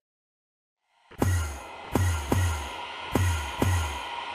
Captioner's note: Enderman teleport noises